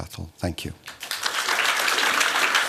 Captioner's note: applause